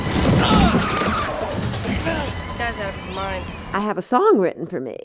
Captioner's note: thrilling music; grunt